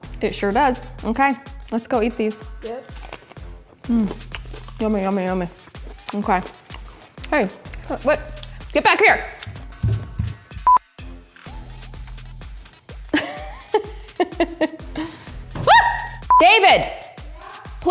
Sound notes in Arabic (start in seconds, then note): 10.9 أصوات طنين; 13.1 تضحك; 15.6 تصرخ